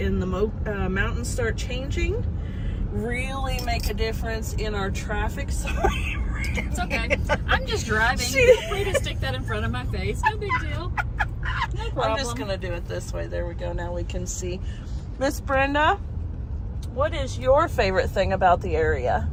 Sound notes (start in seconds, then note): 10.1 laughter